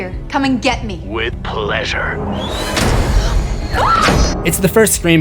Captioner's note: Samantha screams